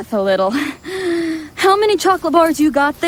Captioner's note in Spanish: respiración fuerte